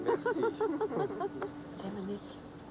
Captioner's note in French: Rires